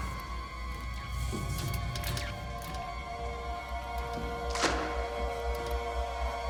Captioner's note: eerie music; electricity crackling